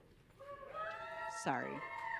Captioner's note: audience cheering